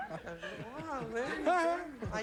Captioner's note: mumbling in high voice